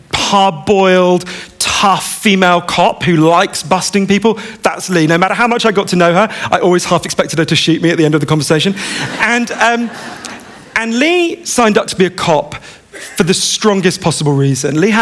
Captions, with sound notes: hardboiled tough female cop who likes busting people, that's Lee. No matter how much I got to know her, I always half expected her to shoot me at the end of the conversation [laughter]. And Lee signed up to be a cop for the strongest possible reason.